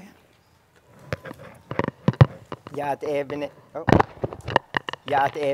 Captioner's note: indigenous language 00:11:38